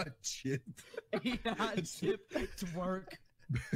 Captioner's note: laughing